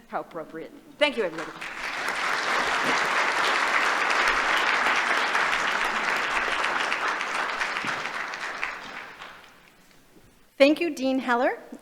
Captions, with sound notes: How appropriate? Thank you, everybody. [APPLAUSE] Thank you, Dean Heller.